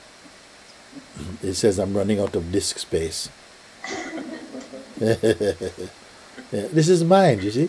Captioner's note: laughter